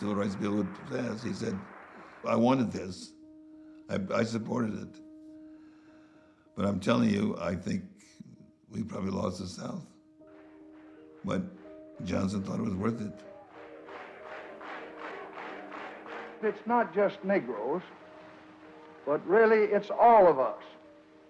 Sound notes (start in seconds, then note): 14.1 fast paced chanting